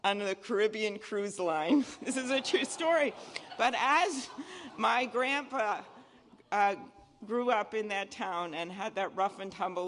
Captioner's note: laughter